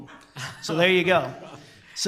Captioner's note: group laughter